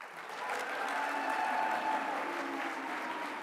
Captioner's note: applause